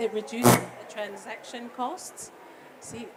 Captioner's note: more feedback